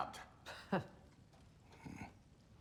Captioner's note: laugh; grunt